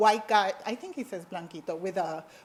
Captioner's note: speaks foreign language